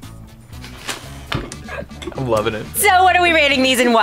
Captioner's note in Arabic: يضحك